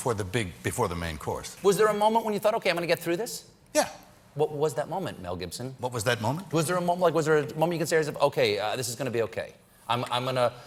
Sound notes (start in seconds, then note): none